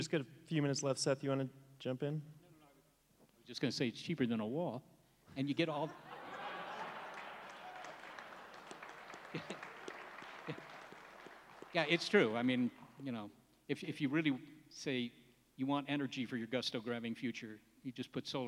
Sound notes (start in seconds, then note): 5.8 laughs; 7.7 applause